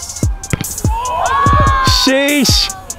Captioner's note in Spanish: vítores de la multitud